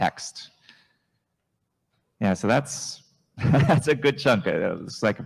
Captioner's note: chuckles